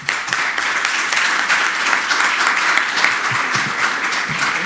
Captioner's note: audience applauds